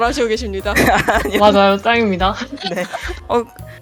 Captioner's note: laugh